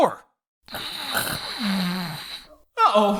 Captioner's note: snore